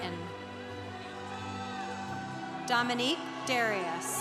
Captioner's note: congregation applauding